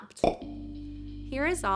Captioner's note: popping